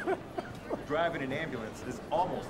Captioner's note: Darnell laughs